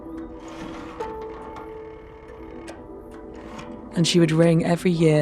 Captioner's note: phone rattling